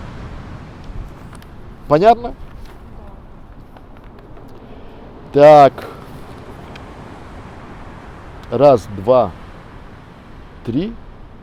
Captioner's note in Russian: тихий голос на фоне прибоя